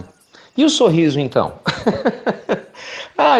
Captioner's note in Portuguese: Risos